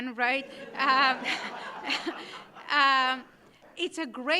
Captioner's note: audience laughing